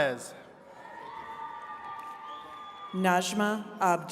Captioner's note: attendees cheering